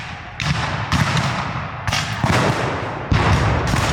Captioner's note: guns fire